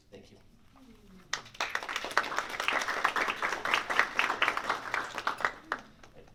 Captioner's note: applause